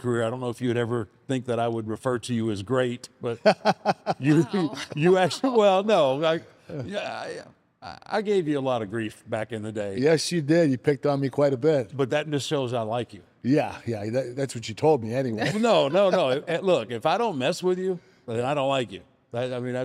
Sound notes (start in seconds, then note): 3.3 laughs